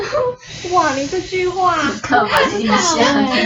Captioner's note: breath-holding